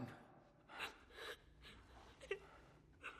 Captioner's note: sobbing